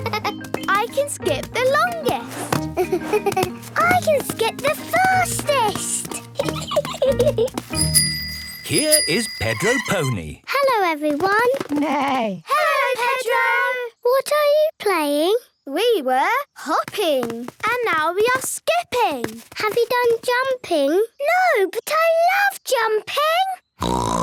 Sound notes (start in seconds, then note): 7.7 bike bell; 11.6 neigh; 23.8 snort